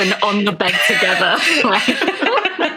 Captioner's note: laughing